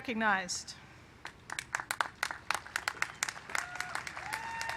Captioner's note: applause